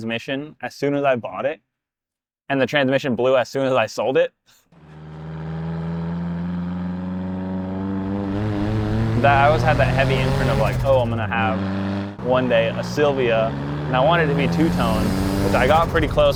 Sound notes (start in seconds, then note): 4.9 exhaust